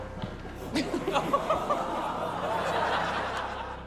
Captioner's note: laughter